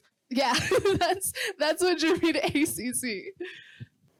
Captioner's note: laughing